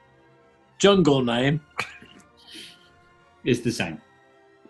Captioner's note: sniggering